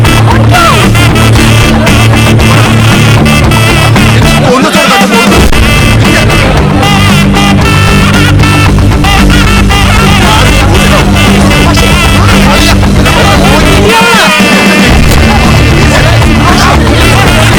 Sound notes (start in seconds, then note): 10.8 Commotion among Families